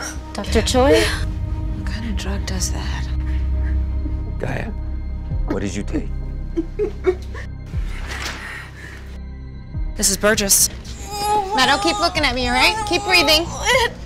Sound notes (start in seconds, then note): 6.3 whimpering